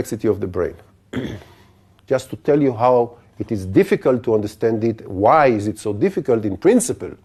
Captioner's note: cough